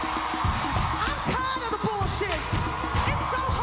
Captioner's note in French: acclamations